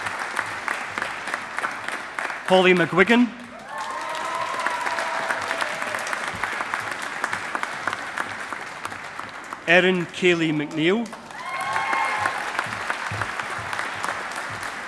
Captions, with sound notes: Holly McGuigan. (AUDIENCE APPLAUDING) Erin Kayleigh McNeill. (AUDIENCE APPLAUDING)